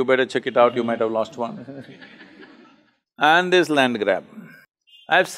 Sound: laughter

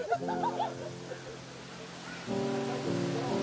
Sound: waterfall burbling; tender music

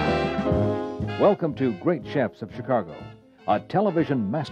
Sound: voiceover

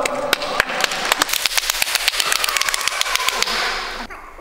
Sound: continuous passionate cheering

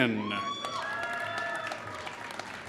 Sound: applause

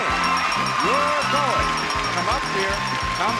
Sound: crowd cheers

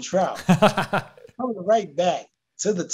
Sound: laughing

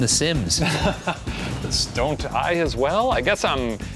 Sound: laughs

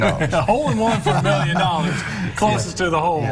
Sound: chuckling

